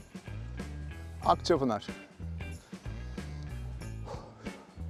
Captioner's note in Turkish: deri̇n nefes alip verme